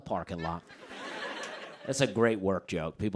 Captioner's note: laughter